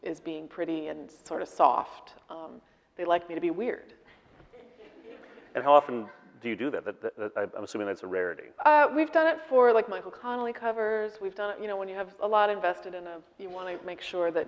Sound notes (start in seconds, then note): 4.4 audience laughing